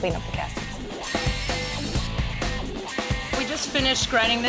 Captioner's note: buzzing sounds